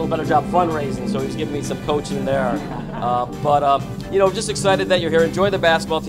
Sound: laughter

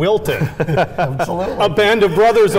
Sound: laughing

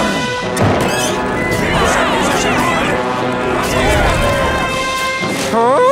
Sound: screaming

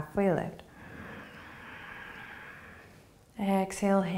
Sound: inhaling

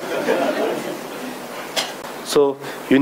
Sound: audience laughing

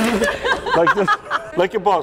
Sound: laughing

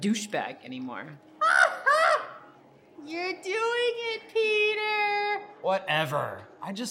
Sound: laugh

